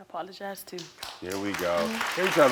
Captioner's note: audience applauding